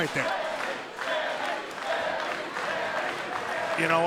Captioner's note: fans chanting